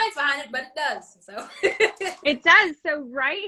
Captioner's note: laughs